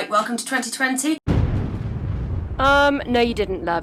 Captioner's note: explosion booms